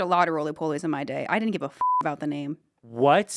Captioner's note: beep